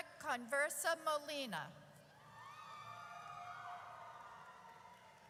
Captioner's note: audience cheers